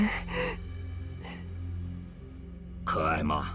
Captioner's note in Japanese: 息をのむ音